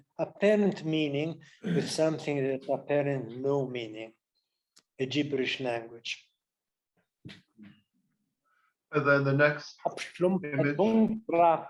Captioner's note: speaking Patchameena